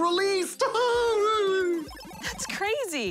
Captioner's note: laughs